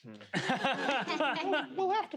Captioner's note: and players laugh